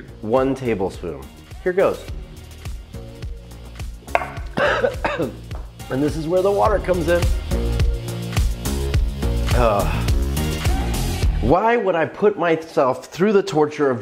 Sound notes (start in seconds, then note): 4.2 coughing; 8.0 upbeat music